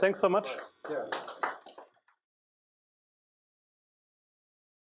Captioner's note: applause